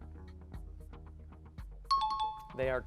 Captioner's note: timer